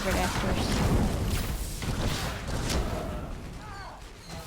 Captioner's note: gunshots